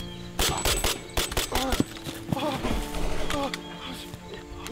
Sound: gunfire thuds

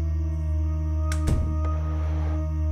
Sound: door Closes

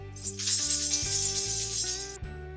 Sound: bells jingling; uplifting music

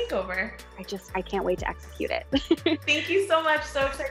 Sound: laughs

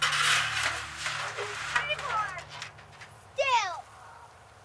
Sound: metal clattering

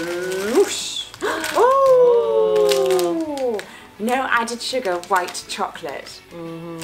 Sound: excited noises

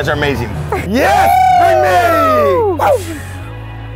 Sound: cheering

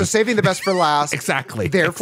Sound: laughing

